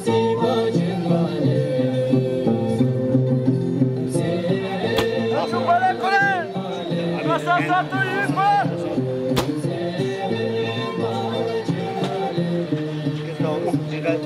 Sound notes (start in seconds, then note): 5.5 speaking in foreign language; 10.3 singing in foreign language